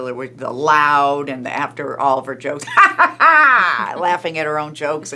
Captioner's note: mimics loud laugh